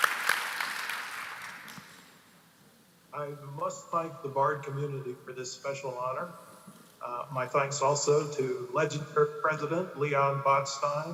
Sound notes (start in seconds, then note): 3.3 applause